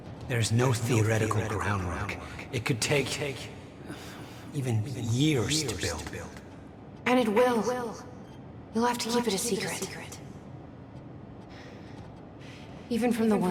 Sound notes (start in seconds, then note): 0.9 as an echo from the past; 13.1 as an echo from the past